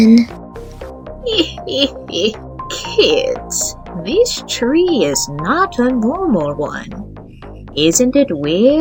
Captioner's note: laughs